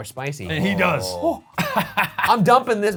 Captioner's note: laughs